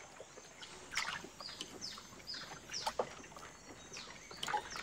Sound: water splashes

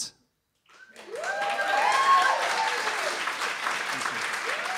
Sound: applause

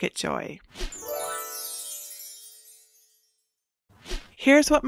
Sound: chimes

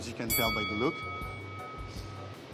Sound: ding

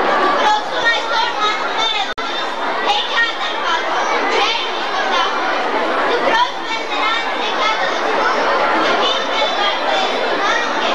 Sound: children reciting some poetry

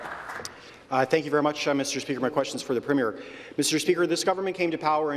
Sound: some Applause

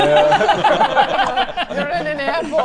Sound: violent giggles

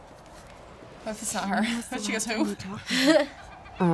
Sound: chuckles

